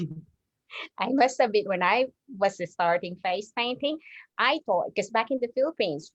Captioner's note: chuckles